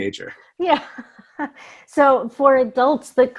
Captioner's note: laughs